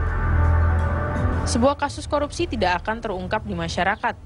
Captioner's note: non-english speech